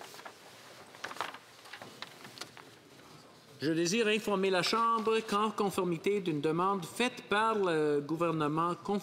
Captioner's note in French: voix de l'interprète